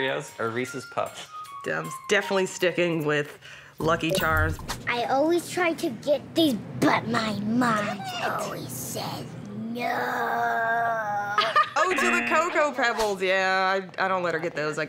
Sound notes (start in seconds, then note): 6.7 raspily; 11.0 laughs